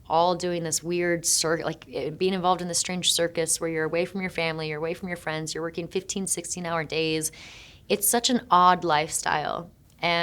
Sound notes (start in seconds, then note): none